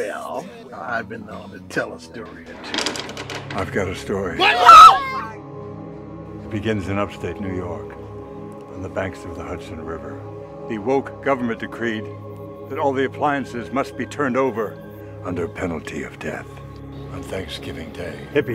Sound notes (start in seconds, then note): 4.4 screams